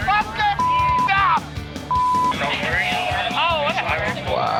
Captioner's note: customers swearing